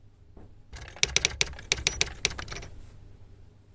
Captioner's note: typewriter tapping